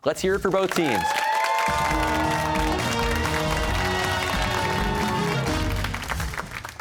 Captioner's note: cheers and applause